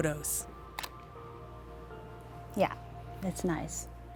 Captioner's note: camera click